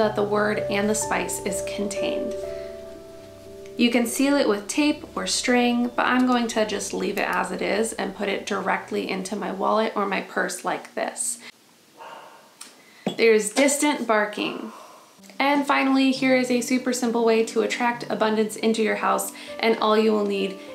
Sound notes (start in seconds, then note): 12.0 distant barking